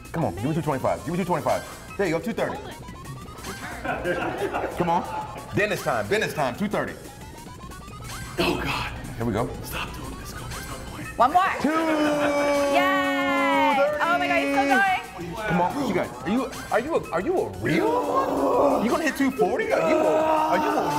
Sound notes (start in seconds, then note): 2.4 laugh